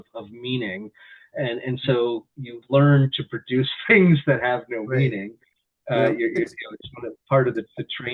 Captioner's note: chuckles